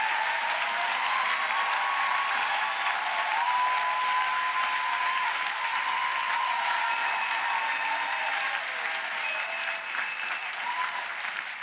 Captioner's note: applause